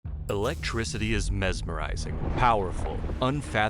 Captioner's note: voiceover